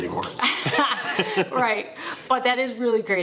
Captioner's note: laugh